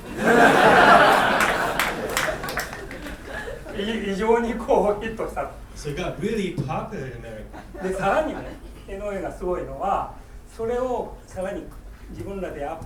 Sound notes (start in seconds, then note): 0.0 laughing; 0.7 clapping; 3.8 speaking in foreign language; 8.0 speaking in foreign language